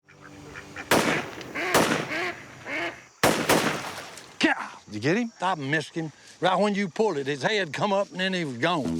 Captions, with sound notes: [gunshots] [ducks quacking] - Pow. Did you get him? I missed him. Right when you pulled it, his head come, and then he was gone.